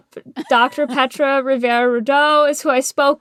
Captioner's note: laughter